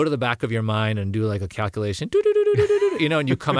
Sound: laugh

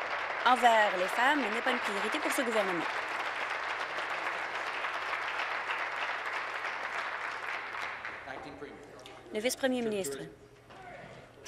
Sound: applause

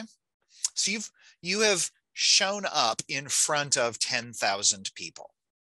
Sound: none

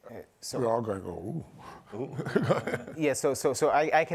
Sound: chuckles

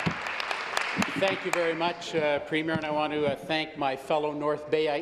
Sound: applause

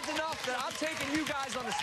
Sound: cheers and applause

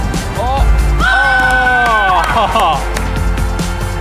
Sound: cheering and clapping

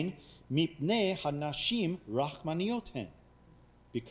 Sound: speaking foreign language

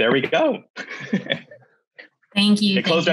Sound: chuckles

